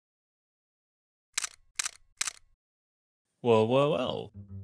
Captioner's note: text clicking